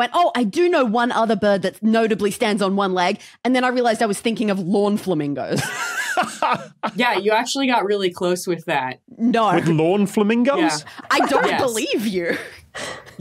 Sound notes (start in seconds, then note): 5.7 laughs